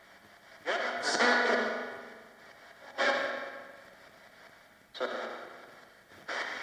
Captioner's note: ghostly voices warbling, echoing